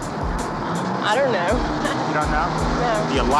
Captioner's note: chuckles